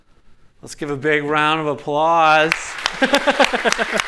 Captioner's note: clapping